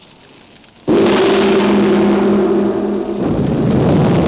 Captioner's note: gong booms; fire whooshes